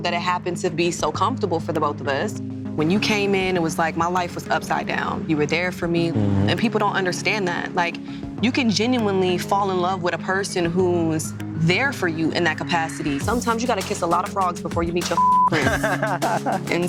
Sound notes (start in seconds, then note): 15.1 beep; 15.5 laughing